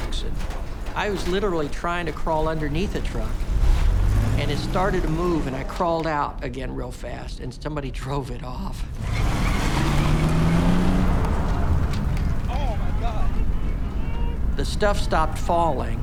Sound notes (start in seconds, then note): 8.8 tires screeching; 11.6 debris falling